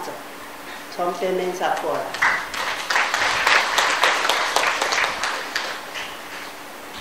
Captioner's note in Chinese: 眾人鼓掌